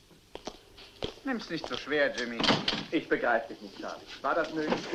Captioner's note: door closes